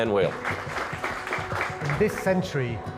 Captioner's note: audience applaudds